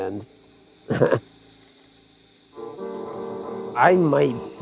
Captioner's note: chuckling